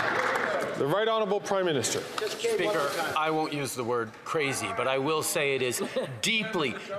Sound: applause

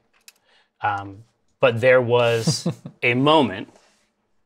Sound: laughs

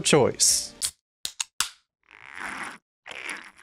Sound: cracks open can, drinks

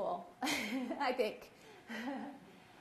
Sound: laughs

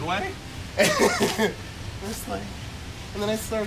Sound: laughs

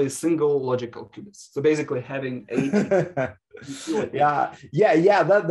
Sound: laughs

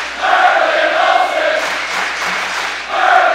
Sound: clapping

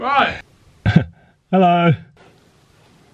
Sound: laughing

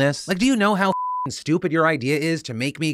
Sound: beep

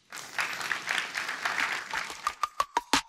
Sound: applause

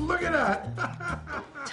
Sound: laughs

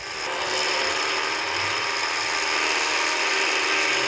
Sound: winch operating

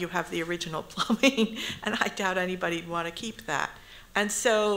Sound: chuckles

